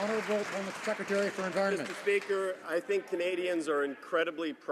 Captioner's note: some Applause